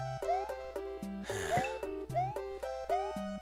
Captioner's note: sigh